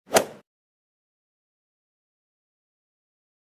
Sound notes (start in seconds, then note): 0.1 swoosh